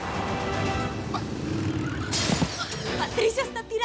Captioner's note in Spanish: Estruendo